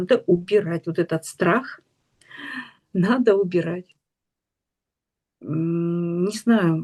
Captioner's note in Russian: тяжело вздыхает